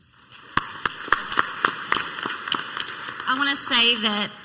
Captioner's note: clapping